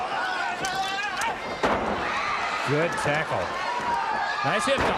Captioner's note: crowd chatter